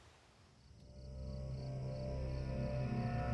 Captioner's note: insects chirping; dramatic music